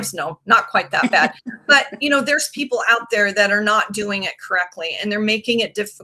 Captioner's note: laughing